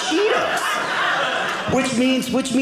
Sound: audience laughing

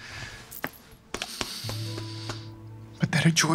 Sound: patting

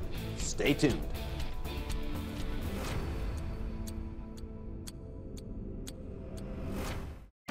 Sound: timer ticks; energetic music

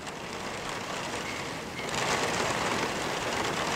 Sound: wind blowing

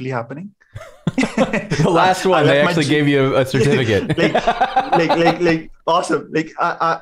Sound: laughter

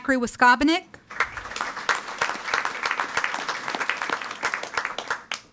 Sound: audience applauding

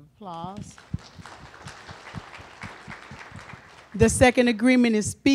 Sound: applause

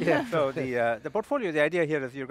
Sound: laugh

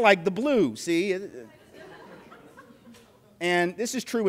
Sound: polite laughter

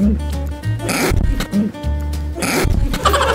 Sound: gulp

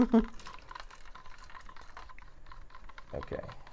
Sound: stirring

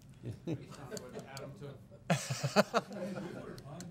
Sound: laughing

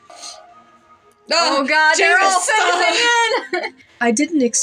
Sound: laugh

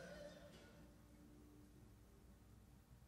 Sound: none

